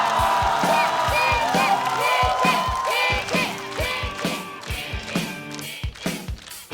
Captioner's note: coughs